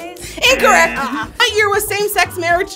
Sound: wrong buzzer rings

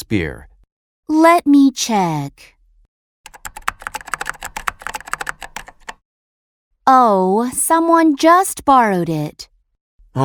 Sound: typing sound

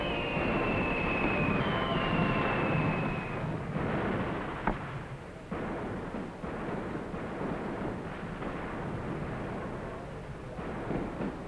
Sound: explosions continue in background

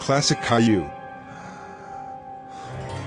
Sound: exhale; inhale

